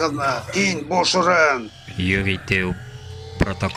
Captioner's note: machine powering up